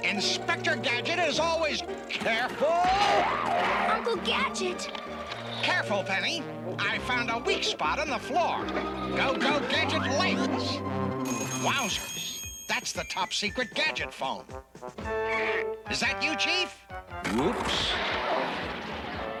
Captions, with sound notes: INSPECTOR GADGET IS ALWAYS... CAREFUL! [CRASH] UNCLE GADGET! I FOUND A WEAK SPOT IN THE FLOOR. GO GO, GADGET LEGS! [TELEPHONE RINGS] WOWSERS! THE TOP SECRET GADGET PHONE. THAT YOU, CHIEF? WHOOPS! [CRASH]